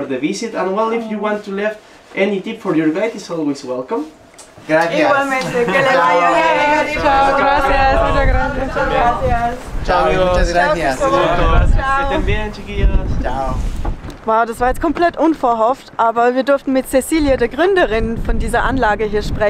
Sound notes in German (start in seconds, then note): 4.5 auf Spanisch